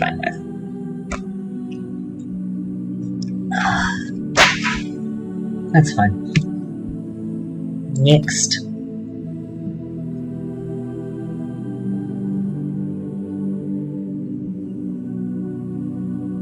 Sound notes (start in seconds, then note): 3.5 post-sip sigh; 4.4 papers hitting the floor